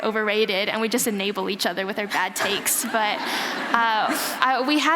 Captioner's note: laughter